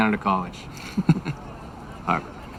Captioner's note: laughs